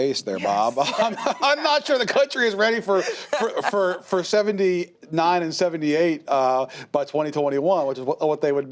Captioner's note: laughs